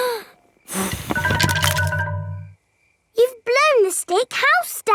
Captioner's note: blowing